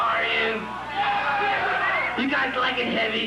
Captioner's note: crowd cheering